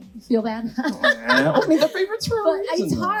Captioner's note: laughs